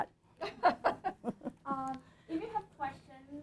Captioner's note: laughter